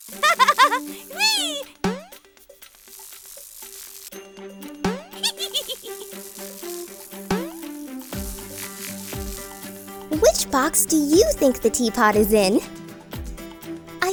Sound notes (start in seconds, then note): 0.1 laughs; 1.5 boing; 2.6 buzzing; 4.9 boing; 7.2 boing